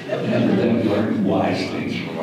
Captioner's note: audience laughter